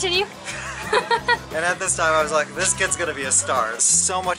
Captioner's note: laughter